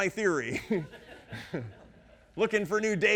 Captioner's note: audience laughing